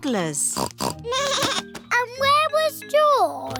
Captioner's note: snorts; bleats